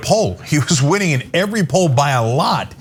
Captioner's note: laugh